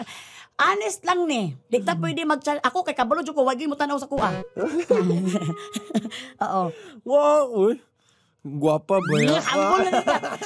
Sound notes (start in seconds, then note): 4.6 chuckling